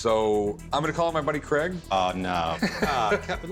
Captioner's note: laughs